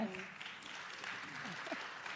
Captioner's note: applause